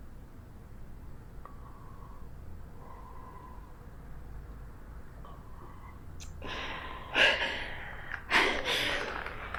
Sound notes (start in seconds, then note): 6.3 cries